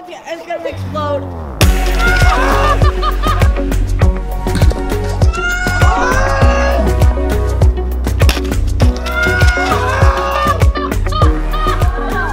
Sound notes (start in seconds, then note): 2.0 upbeat music; 3.4 shouting and laughing